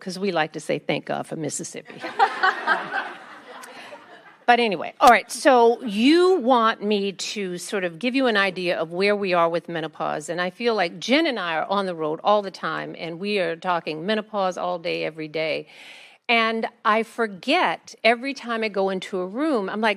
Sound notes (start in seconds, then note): 2.0 attendees laugh